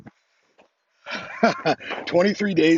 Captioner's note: laughs